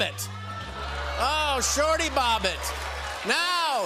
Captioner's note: audience "Ohs"